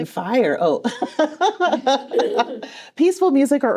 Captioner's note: laughs